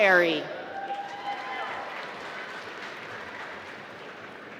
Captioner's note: applause